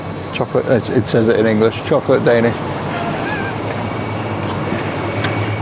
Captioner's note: laughs